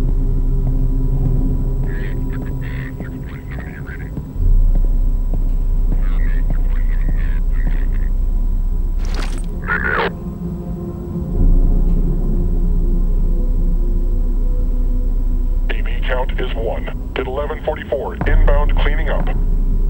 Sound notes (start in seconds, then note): 1.8 faint CP radio chatter; 5.9 faint CP radio chatter